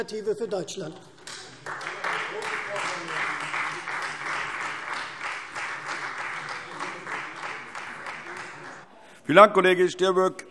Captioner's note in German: Beifall Freie Demokraten - Zurufe AfD